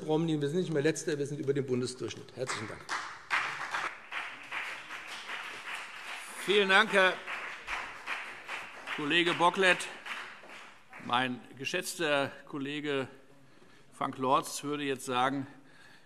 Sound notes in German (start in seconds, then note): 2.4 Beifall BÜNDNIS 90/DIE GRÜNEN und CDU - Zurufe DIE LINKE